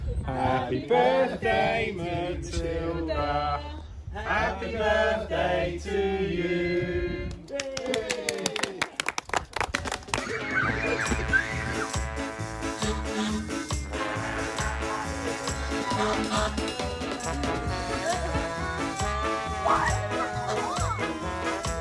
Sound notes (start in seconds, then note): 7.5 cheering; 10.0 children laughing; 12.0 fire engine honks